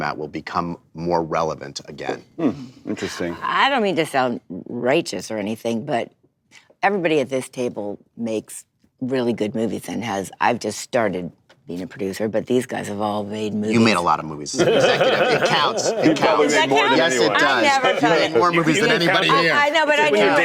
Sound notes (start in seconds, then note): 14.6 Seth laughs